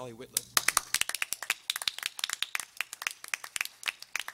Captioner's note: everyone applauding